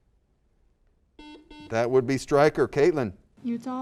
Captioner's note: buzzer